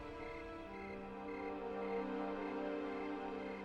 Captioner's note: crickets chirping